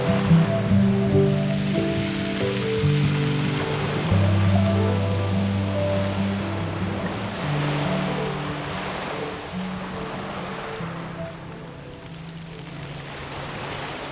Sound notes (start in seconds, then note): 0.3 lighthearted music; 9.6 waves crashing loudly